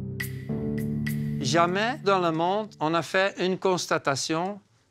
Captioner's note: French spoken audio